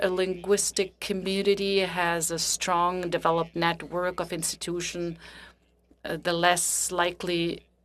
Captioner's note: speaking French